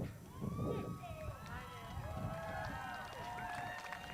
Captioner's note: crowd cheers